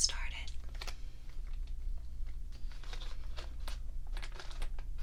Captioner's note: swatching sounds